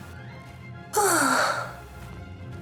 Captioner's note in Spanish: suspiro